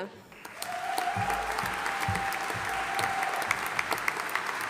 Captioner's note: audience applauding